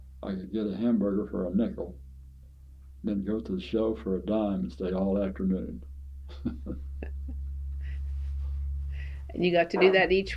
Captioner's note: laughs